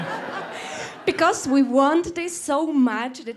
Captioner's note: laughter